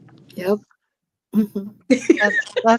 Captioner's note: laughter